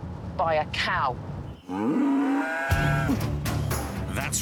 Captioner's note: moo